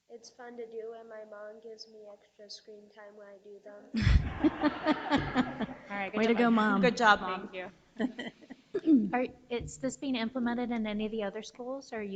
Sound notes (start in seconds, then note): 3.9 all laughing